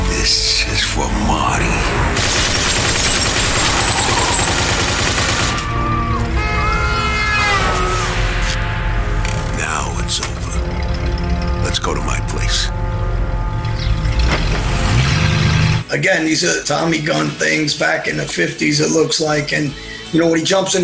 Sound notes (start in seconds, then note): 2.1 gunshots; 5.4 horn honking